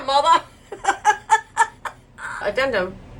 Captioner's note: laughs